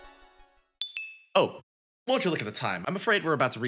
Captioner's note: chime plays